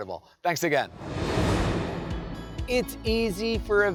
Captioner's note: air whooshing